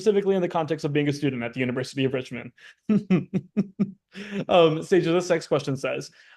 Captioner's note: chuckles